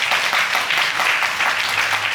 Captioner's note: audience applauding